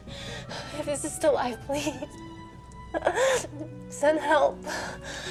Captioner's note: sobs